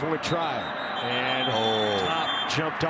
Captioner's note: referee blows whistle